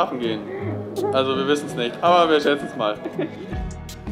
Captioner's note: laughs